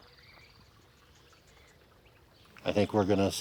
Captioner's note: birds chirping